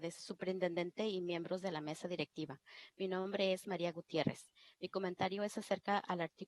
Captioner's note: foreign Language